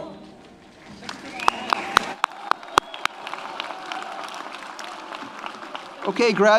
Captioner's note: audience applauds; audience cheers